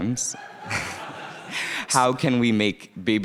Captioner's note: audience laughing